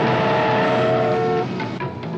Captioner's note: car horn